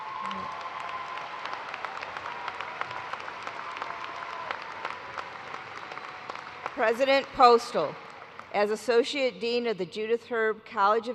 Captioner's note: cheers and applause